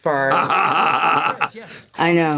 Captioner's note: Gould laughs